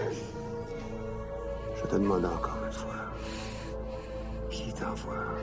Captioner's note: LaFleur speaking in French